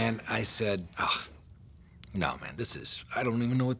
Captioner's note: scoffs